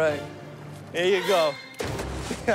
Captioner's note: laughs